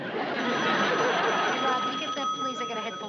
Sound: telephone rings

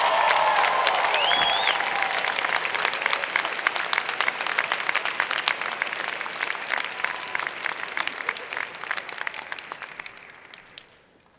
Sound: cheers and Applause; laughter

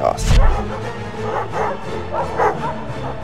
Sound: dogs barking; bright music intensifies

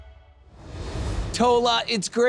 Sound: graphics whoosh

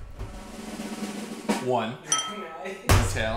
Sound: drum roll; ding

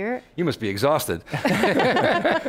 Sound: laughs

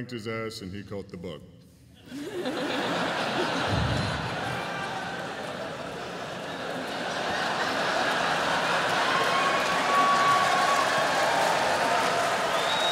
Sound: laughter

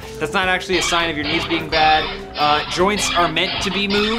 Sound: rusty hinge sound

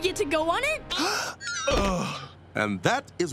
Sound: gasping

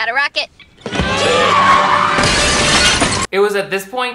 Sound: glass shattering; tires squealing

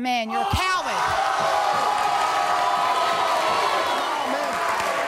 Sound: audience cheering

